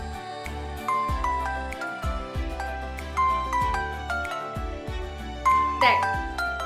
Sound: phone rings

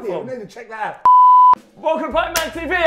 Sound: beeping

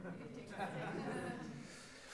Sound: audience murmurs response

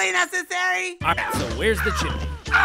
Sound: screaming; screams

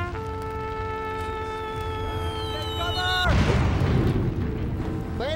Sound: sound of bombers flying

